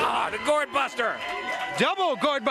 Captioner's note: crowd cheering